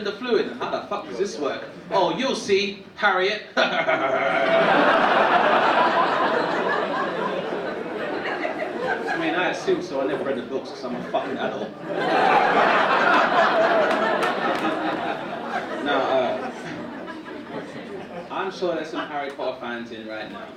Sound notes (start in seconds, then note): 3.6 laughing; 12.2 audience laughing